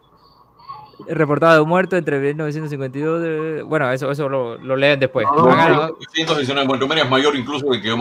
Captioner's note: laughs